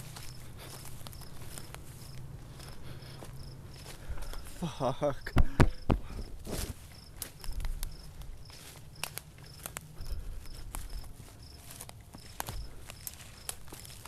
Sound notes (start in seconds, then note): 6.3 taps camera; 8.9 insects buzzing; 8.9 underbrush crunching